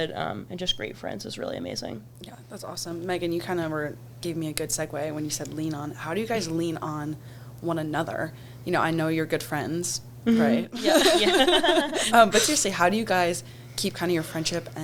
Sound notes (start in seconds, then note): 10.7 everyone laughs